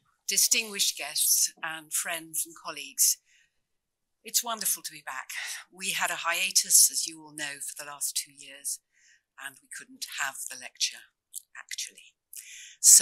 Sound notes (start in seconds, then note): none